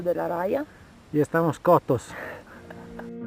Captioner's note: spanish